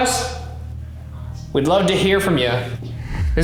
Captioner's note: voice whispers